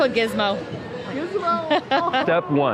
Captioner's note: laughing